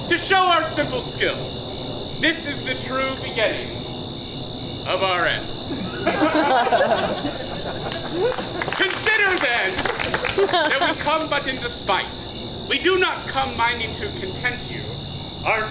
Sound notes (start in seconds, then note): 5.6 audience laughs; 7.1 audience applauds